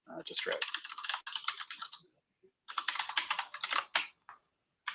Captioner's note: typing